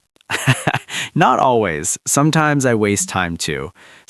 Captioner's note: laughs